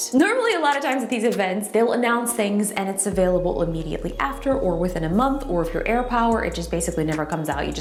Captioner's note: none